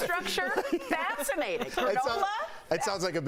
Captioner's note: laughter